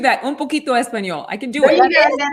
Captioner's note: foreign language